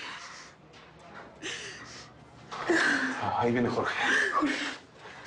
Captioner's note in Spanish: Sollozos